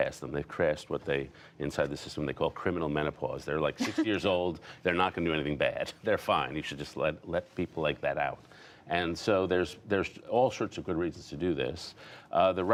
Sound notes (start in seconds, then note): 3.8 laughter